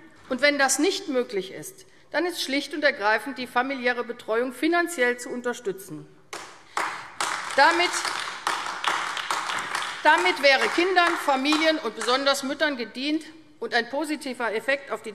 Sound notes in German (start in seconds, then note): 6.3 Beifall AfD